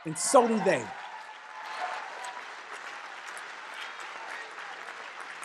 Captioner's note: cheers and applause